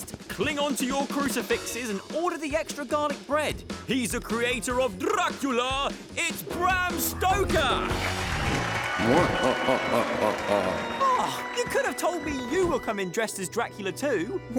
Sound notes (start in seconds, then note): 7.8 applause; 9.0 evil laughter